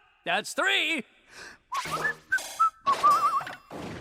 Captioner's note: exits while whistling